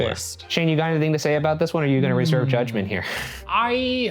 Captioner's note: laughing